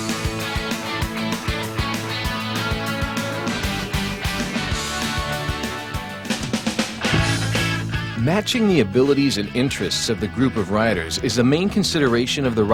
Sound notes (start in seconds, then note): 0.1 upbeat rock music; 8.7 voiceover